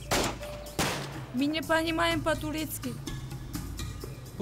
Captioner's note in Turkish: Rusça cevap veriyor